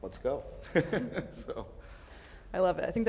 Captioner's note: all laugh